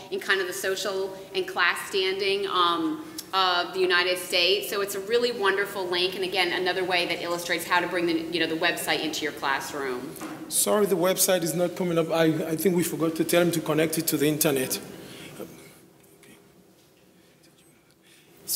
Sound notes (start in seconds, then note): none